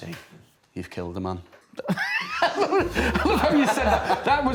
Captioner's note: laughs